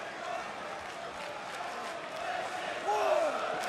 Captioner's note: crowd cheering